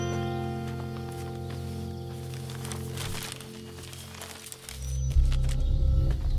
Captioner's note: Footsteps; Paper ruffling